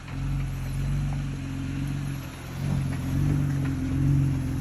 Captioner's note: car motor hums